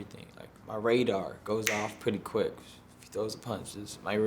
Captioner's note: snapping